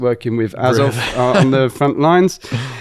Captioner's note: laughs